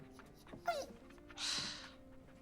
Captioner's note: Earl whines